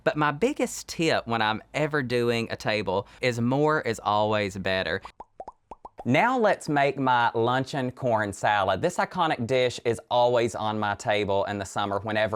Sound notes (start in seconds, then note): 4.6 graphics popping